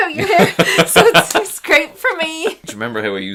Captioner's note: laughs